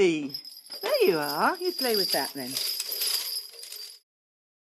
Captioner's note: bells jingle